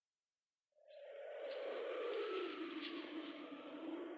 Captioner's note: wind whistling